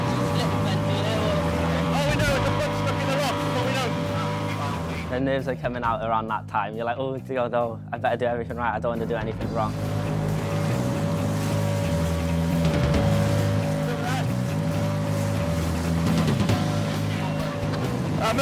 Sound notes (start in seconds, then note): 0.0 dramatic music; 0.0 motor whirring; 9.8 motor continues whirring; 11.2 dramatic music continues